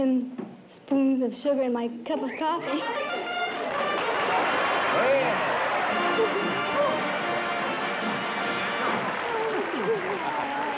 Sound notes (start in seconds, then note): 2.9 trumpet flare; 3.5 applause